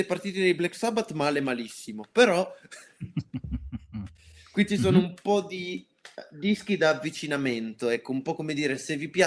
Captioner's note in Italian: risate